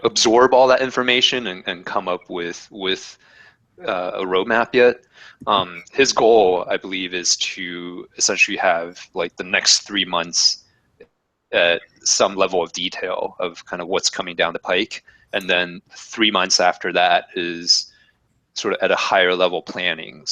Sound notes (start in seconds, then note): none